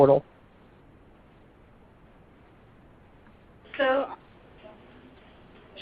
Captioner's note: silence